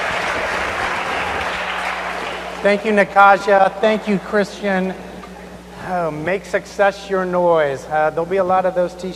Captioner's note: cheers and applause